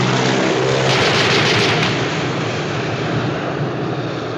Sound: guns firing

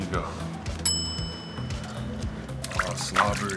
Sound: bell dings

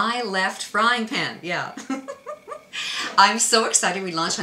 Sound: laughs

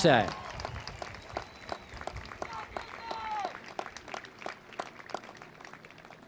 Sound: applause

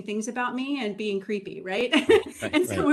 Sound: laughs

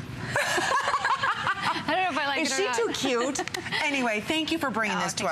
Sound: laughter

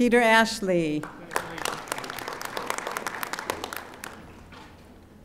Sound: audience applauding

